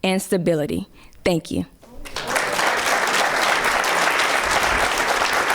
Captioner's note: clapping